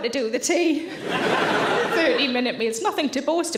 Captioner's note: audience laughing